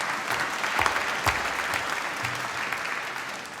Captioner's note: applause